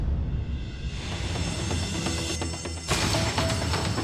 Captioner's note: alarm bell ringing